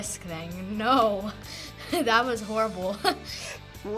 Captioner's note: chuckles